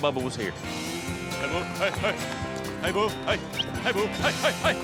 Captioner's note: whistles